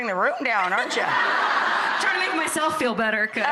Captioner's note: laughter